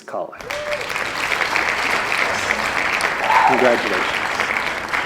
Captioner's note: cheering and applause